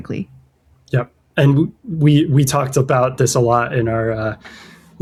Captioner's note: uh